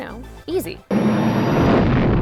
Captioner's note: whooshing